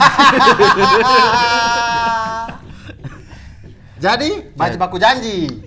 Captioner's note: laughing